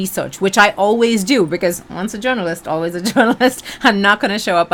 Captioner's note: laughs